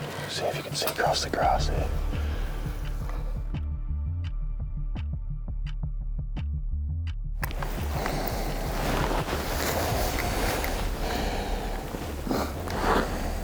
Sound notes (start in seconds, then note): 0.0 rifle gear clicking; 3.1 hunters breathing heavily; 4.3 gentle music; 7.4 grass rustling; 7.4 hunters breathing heavily; 10.7 intense music